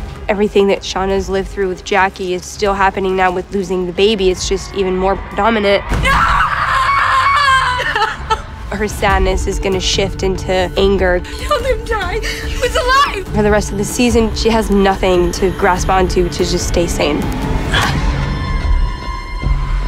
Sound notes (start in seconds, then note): 5.8 screams; 7.8 sobs